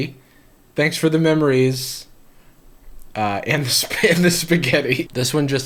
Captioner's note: laughs